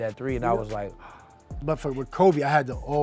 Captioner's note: gasps